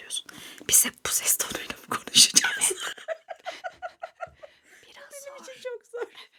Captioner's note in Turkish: kahkaha